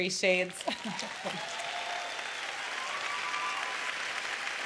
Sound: applause

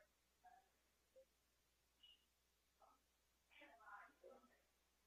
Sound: background chatter

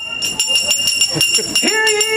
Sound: bell ring sounds

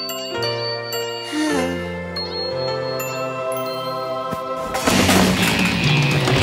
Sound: sighing

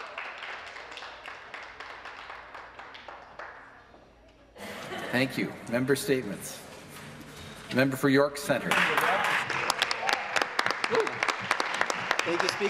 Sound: some Applause

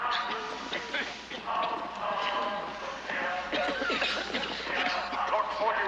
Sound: coughing

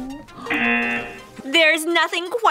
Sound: buzzer

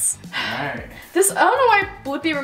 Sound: sighs

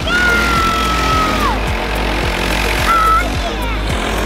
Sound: engines revving

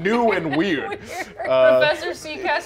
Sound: laughs

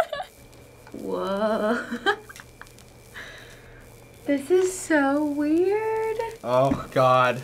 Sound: laughs; laughs

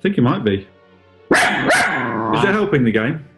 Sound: loud barking

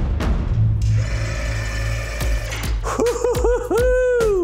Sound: whirring

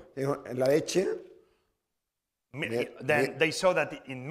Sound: speaking spanish

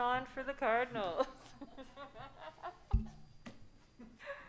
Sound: laughing

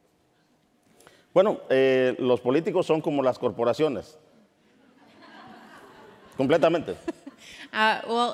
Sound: speaking in Spanish

